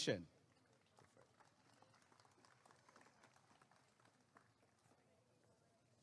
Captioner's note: applause and cheering